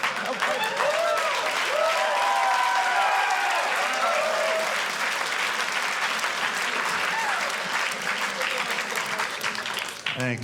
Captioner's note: audience clapping; audience laughing